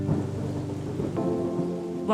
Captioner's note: thunder rumbles